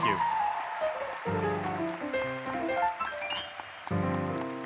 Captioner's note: applause